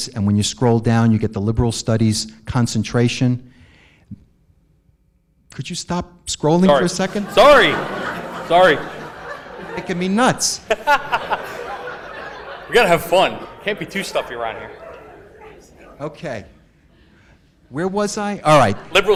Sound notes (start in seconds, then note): 7.5 audience laughs; 11.0 all laugh; 18.5 audience laughs